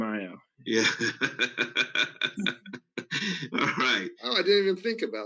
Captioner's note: laughs